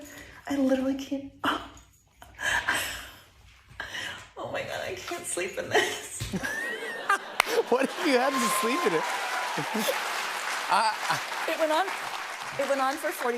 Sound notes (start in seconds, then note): 2.0 laughs; 6.2 laughter; 8.9 cheers and applause